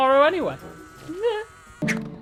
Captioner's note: exasperated noise